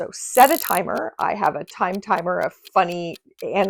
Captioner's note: clock ticking